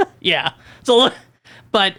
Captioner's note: laughs